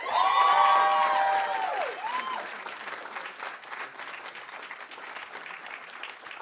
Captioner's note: audience cheering; audience applauding